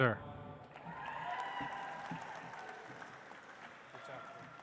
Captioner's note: audience applauds